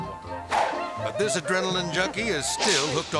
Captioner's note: air swoosh; giggling